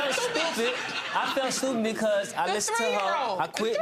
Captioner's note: audience laughing